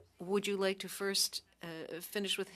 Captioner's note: speaking French